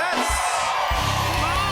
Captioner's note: cheering